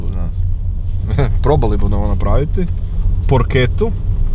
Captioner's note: laughs